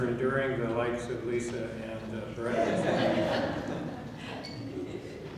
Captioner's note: laughing